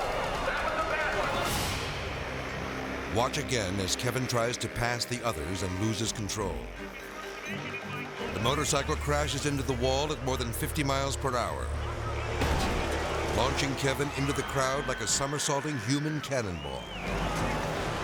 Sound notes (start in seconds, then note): 2.1 bike rumbling; 8.2 announcer chatters; 12.4 bike slams; 12.4 spectators screams